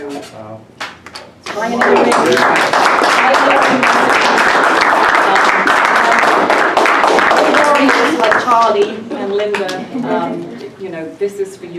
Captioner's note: applause